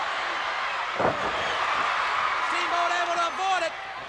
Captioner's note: audience cheers